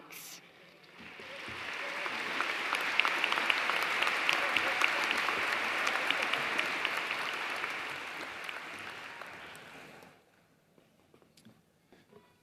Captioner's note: applause